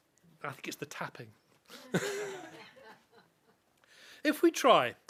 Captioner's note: laughter